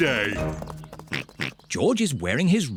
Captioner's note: oinks